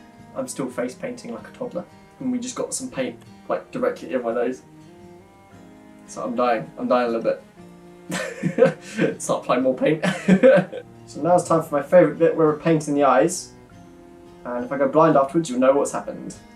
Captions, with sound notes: I'm still face painting like a toddler we just got some paint like directly in my nose so I'm dying, I'm dying a little bit (laughs) Starts applying more paint (laughs) So now it's time for my favourite bit where we're painting the eyes and if I go blind afterwards, you know what's happened